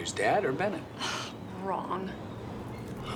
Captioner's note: sighs